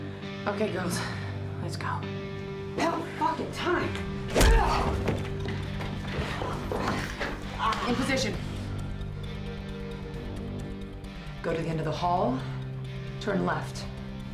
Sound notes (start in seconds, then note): 4.3 groans